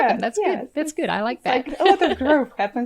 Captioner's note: laughs